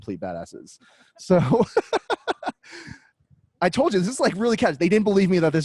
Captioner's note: laughs